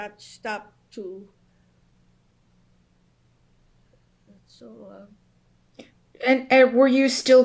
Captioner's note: pauses for 3 seconds